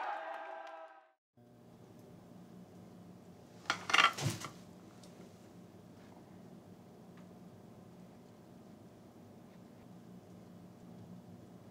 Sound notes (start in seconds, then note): 1.8 faint electrical humming